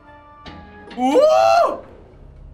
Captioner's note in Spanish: Sorprendido